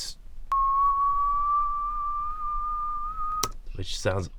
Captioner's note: whistling